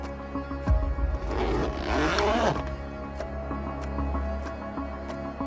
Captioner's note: zipper squeaking; edgy music continues